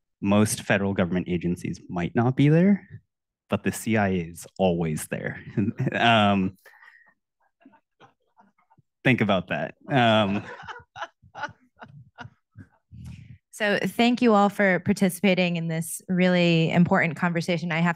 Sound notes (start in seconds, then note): 9.9 audience laughing